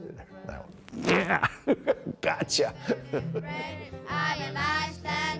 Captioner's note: laughs